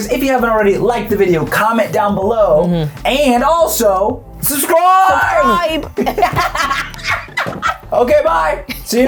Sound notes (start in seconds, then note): 5.5 both laughing